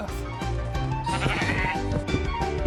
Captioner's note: bleats